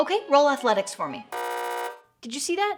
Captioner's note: buzzer rings